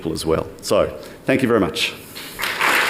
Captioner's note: applause